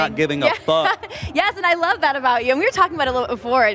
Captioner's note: laughs